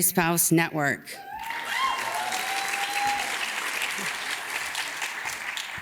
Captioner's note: audience cheers and claps